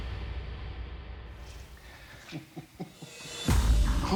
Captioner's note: laughs